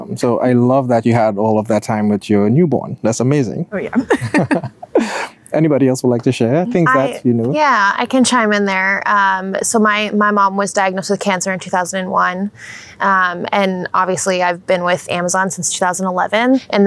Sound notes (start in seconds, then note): 3.9 laughing